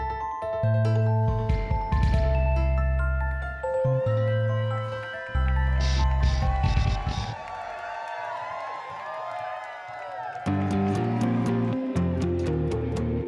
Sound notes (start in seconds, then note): 0.0 whimsical music; 4.7 crowd cheers; 10.4 upbeat music